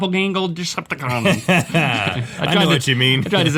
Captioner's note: laughing